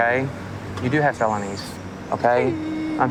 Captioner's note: crying